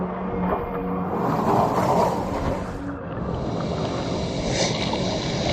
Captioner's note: eerie music; wind blowing; waves crashing